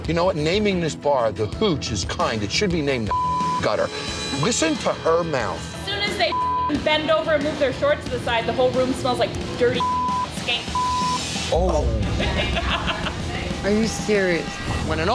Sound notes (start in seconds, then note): 3.1 beep; 6.2 beep; 10.5 beep; 12.0 laughs